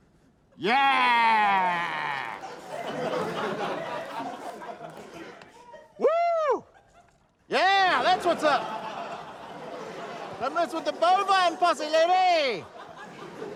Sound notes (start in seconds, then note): 1.7 laughter; 7.8 laughter